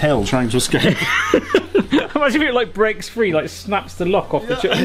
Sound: laughs

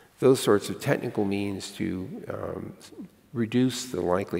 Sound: none

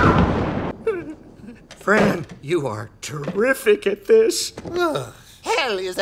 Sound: whimpering

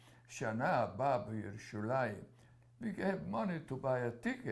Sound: speaking hebrew

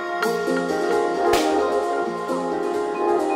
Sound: board snaps

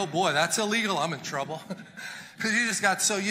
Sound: chuckles

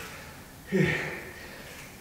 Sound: breath out

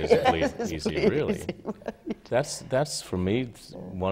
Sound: laughter

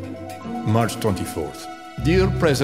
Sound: gorbachev voice speaking

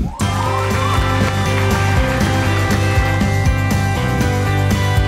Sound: applause and music

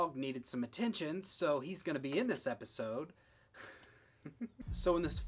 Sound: laughs

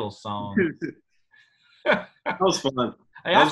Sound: laughing

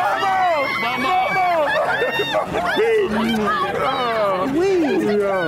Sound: smooches

